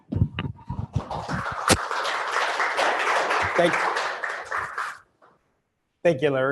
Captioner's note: applause